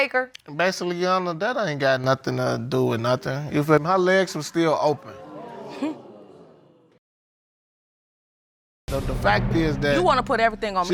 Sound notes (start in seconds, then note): 4.4 audience groaning; 5.1 scoffs